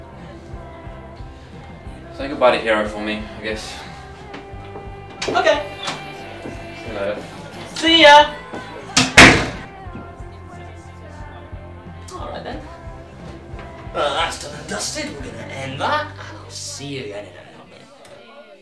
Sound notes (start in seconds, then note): 4.1 door opens and music gets louder; 8.0 door closes and music gets quieter